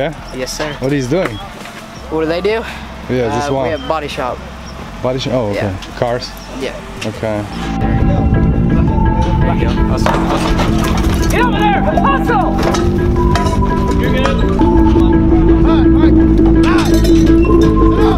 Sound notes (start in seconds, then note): 8.1 men murmuring; 14.7 intense techno music